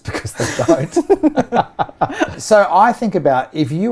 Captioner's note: laughing